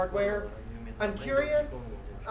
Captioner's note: speaking in foreign language